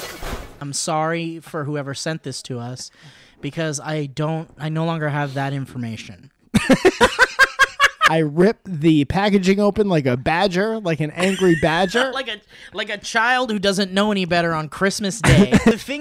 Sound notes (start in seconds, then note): 6.5 laughter